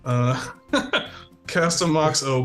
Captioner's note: laughs